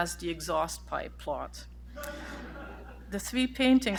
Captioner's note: laughter